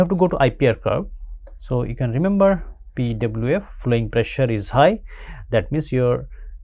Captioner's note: pwf